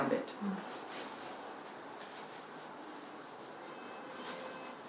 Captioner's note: fabric rustles